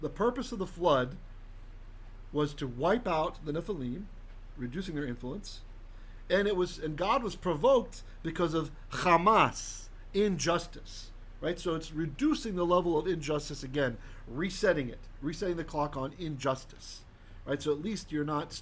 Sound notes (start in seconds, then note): 8.8 Hebrew